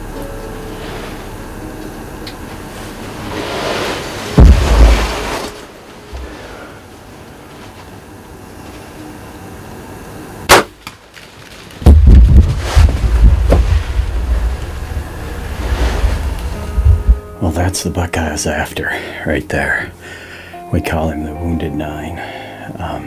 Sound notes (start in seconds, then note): 10.5 sound of bowshot; 11.7 sound of running